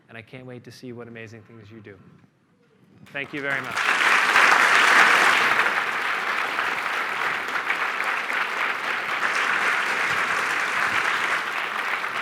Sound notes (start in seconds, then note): 3.0 applause